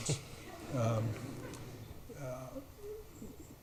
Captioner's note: audience laughs